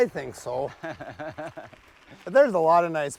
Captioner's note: laughs